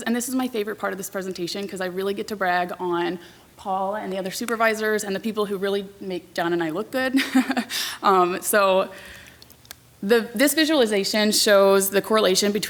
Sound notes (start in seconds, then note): 7.2 laughs